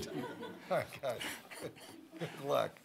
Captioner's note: audience laughing